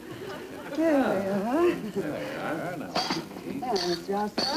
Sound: background voices

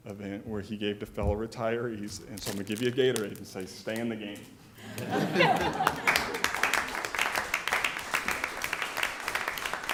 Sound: laughter and applause

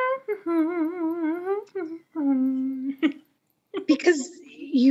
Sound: Nora humming

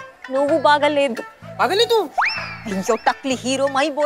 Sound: mumbles in foreign language

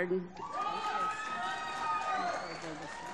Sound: applause

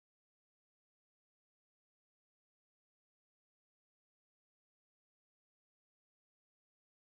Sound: silence

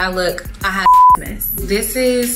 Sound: beep

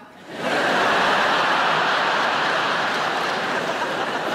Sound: audience laughing

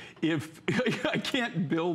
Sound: laughter

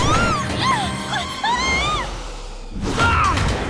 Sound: screaming

